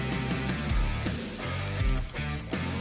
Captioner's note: upbeat music; clock ticking; bell ringing